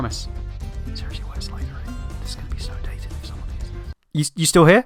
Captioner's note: whispering